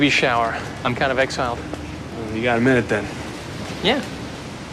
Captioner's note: none